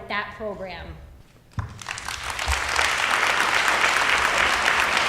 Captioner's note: audience applauding